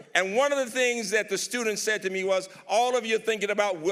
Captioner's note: none